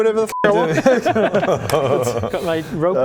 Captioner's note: worth-a-try laugh